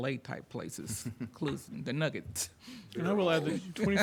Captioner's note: laughs